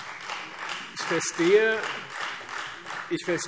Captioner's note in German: Beifall Freie Demokraten